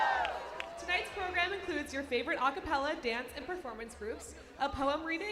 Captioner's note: applause